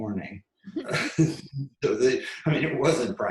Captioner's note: laughs